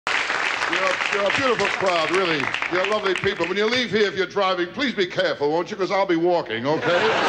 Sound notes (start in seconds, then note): 0.0 audience clapping; 6.6 audience laughs